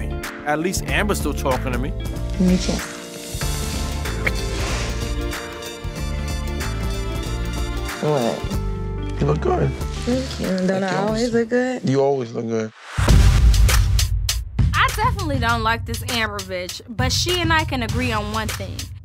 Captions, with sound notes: At least Amber's still talking to me. >>: Give me a kiss. (kissing) What? >>: You look good. >>: Thank you, don't I always look good? >>: You always look good. (dramatic music) >>: I definitely don't like this Amber bitch but she and I can agree on one thing,